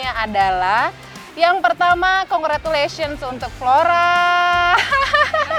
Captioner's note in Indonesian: handclaps